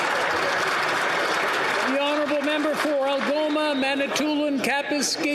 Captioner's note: some Applause